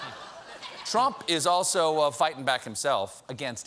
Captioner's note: laughter